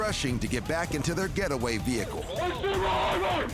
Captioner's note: screaming